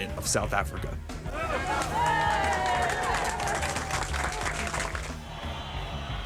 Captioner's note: crowd claps and cheers